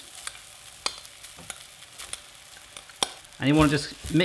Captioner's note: sizzling